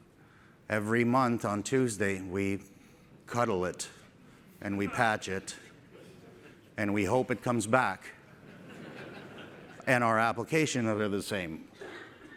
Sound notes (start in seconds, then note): 8.3 laughter